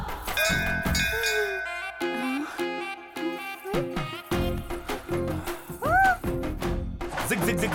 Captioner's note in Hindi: तालियाँ